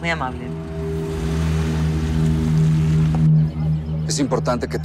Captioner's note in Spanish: Ruido del vehículo